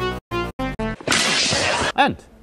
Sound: crack

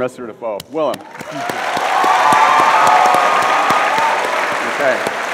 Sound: audience applauds

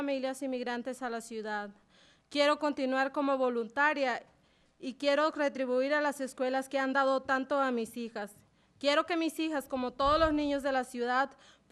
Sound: speaking spanish

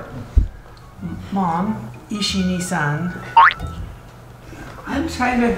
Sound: speaking Foreign Language

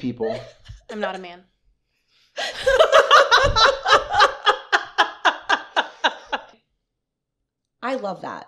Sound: laughter

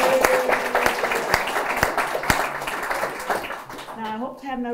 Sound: applause

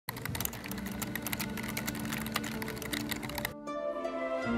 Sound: typing

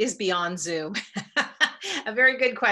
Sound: laughing

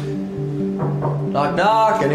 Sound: knocking on door

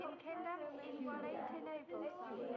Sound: speaking in foreign language

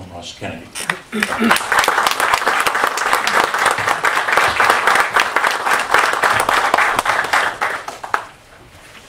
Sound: applause

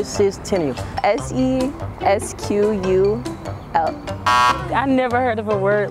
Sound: buzzer beeping

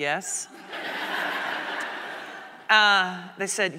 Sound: audience laughing

